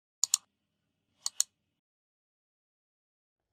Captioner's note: mouse clicking